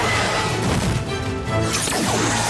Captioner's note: thud